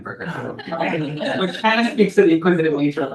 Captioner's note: all laugh